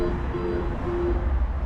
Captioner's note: launch beeping